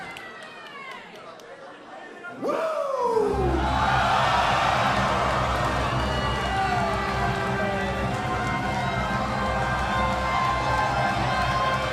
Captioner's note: crowd cheering